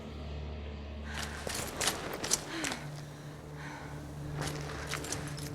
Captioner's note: panting